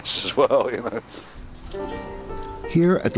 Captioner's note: laughs